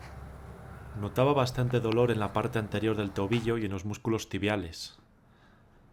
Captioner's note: voiceover